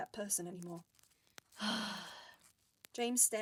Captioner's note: James sighs